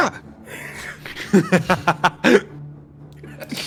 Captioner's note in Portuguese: risadas